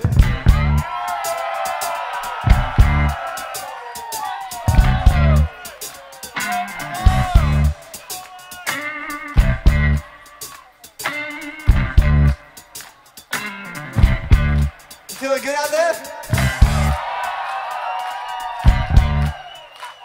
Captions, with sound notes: (audience cheers) Feeling good out there? (audience cheers)